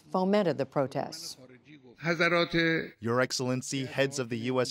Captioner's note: through translator